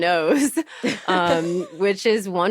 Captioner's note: laughter